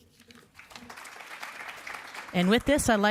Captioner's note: audience clapping